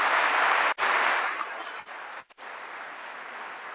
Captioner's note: applause